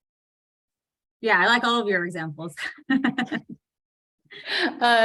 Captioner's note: laughs